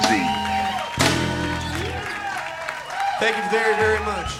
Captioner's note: crowd cheers